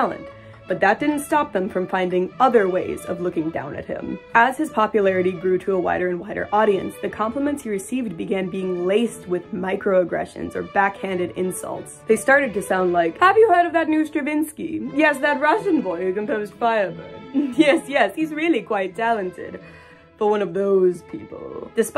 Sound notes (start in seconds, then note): 13.2 snobby voice; 17.3 snicker